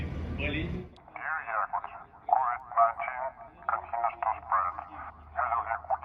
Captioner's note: megaphone voice